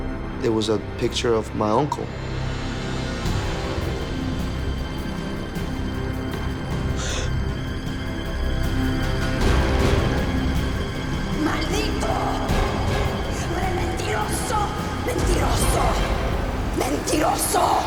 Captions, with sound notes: There was a picture of my uncle. (gasps) (woman speaking Spanish)